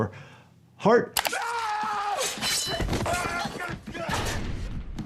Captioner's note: screaming